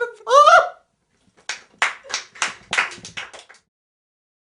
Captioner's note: clapping